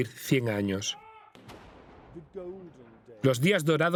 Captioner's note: cannons booming